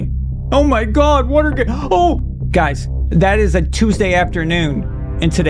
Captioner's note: mockingly